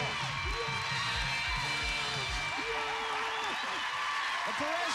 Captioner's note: cheers and applause